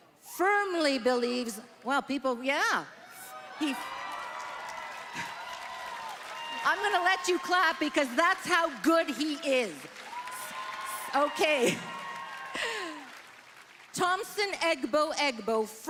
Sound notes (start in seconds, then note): 7.5 applause